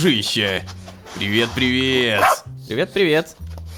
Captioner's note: robot dog bark